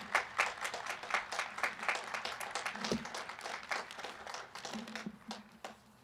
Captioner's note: applause